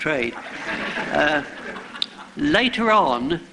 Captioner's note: laughter